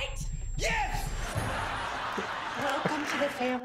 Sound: audience laughter

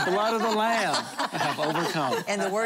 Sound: laughter

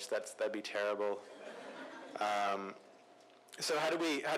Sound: laughter

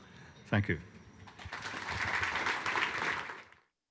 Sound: applause

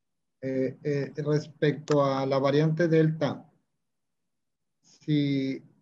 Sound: speaking Spanish

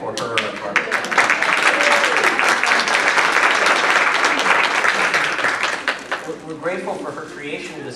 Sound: applause

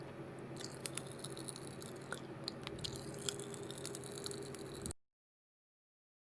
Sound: popping candy pops sound

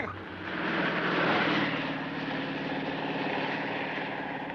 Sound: engine rumbling

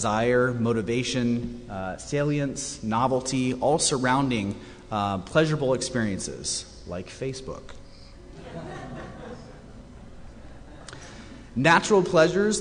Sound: laughter

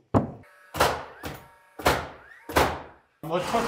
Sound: nail gun thudding; driver whirring

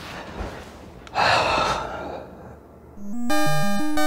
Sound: sighs

